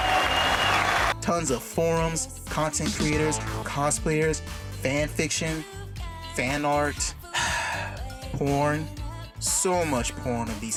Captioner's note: sigh